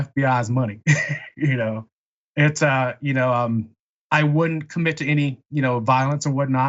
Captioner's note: laugh